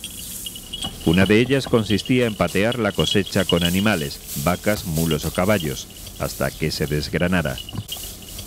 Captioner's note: cows, mules or horses